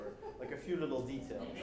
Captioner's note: woman laughing